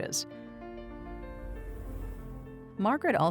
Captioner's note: transition whooshes